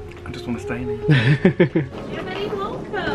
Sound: laughs

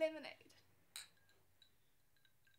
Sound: glasses clink

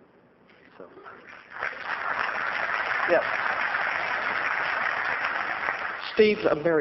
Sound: applause

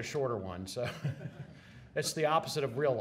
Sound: laughs

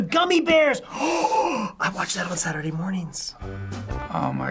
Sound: gasps

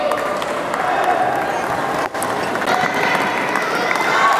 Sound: applause

